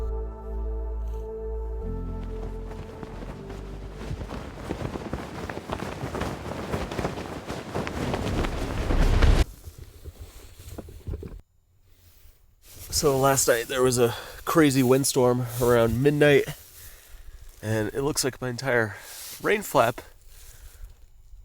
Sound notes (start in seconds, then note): 0.0 gentle music; 4.5 fire cracking